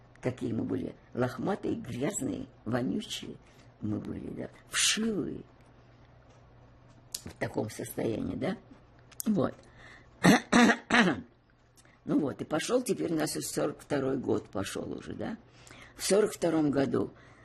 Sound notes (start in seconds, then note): 10.2 coughing